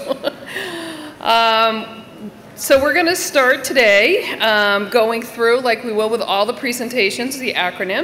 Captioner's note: laughter